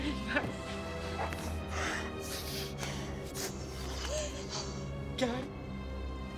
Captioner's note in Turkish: Sinirle Nefes Alıp Veriyor